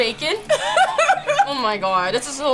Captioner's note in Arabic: يضحك